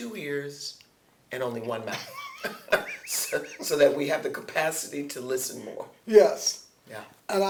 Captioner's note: laughter